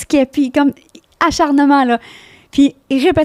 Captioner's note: in french